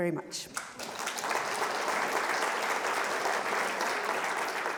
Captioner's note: audience applauds